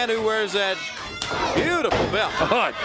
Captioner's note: crowd cheering